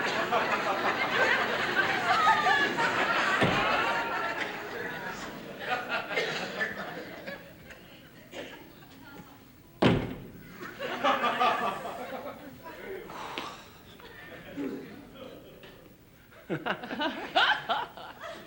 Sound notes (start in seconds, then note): 13.1 Roger exhales; 16.4 laugh lightly